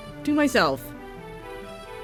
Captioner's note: none